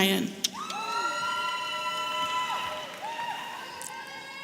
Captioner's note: audience cheering